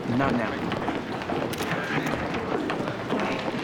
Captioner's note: camera shutters click